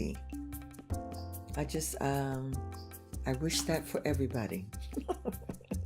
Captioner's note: laughs